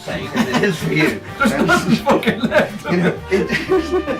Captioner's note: laughs